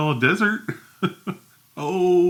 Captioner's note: chuckles